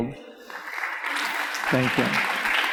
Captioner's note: audience applauds